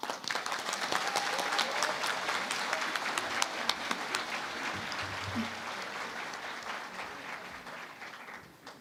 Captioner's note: applause